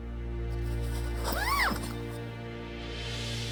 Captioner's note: zipping